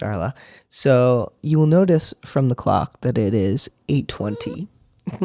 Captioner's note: meow